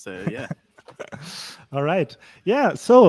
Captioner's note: laughs